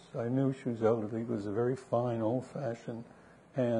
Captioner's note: none